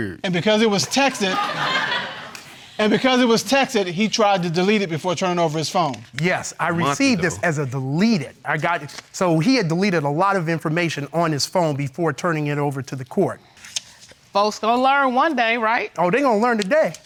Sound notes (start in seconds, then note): 2.6 audience laughing